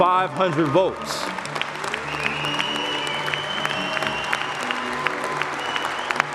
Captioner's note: le public applaudit